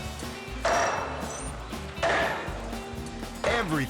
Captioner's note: logo swooshing; upbeat music; sledgehammer pounding